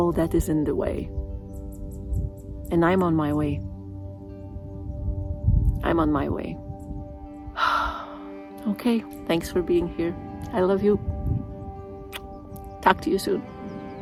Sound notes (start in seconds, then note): 4.6 sigh